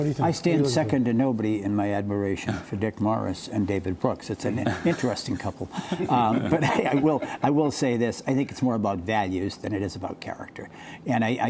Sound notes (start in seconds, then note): 5.7 laughter